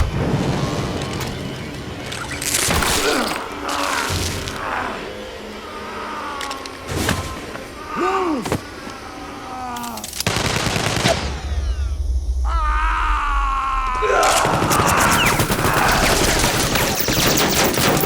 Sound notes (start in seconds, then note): 0.0 dramatic music; 2.6 blood splatters; 6.3 Chuck groaning; 10.2 gunshots blasting; 12.8 Frank shouts; 14.2 gunshots blasting